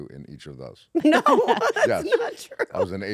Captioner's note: laugh